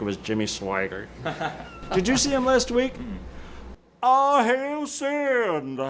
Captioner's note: laughs